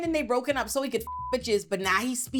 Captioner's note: beep